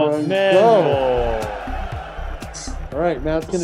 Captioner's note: bell ringing